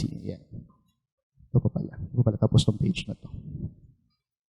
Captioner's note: mumbles